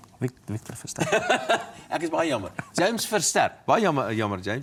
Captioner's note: laughs